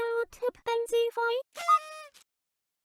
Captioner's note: confetti sound